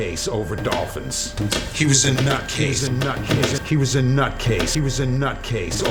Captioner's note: voice echoing